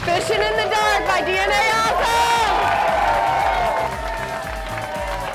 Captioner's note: crowd cheering and clapping